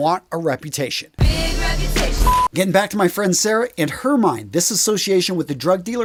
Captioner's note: sound effect